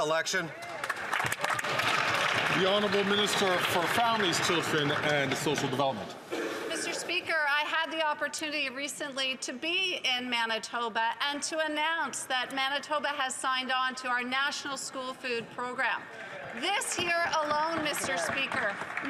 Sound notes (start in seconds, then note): 5.8 some Applause